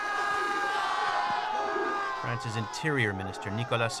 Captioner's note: crowd shouting